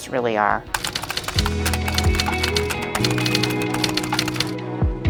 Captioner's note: typing